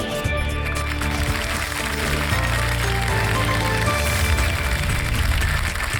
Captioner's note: applause